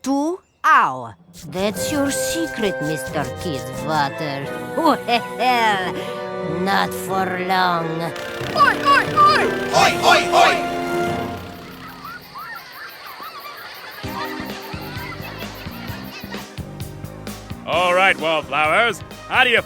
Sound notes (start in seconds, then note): 3.6 evil laugh; 11.5 exited chatter